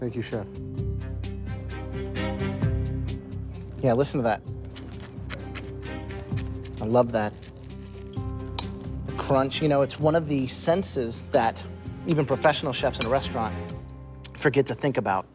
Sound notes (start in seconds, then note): 4.6 crunching